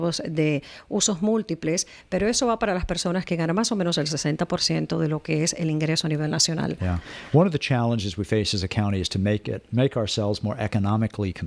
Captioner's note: Hablando ingl\s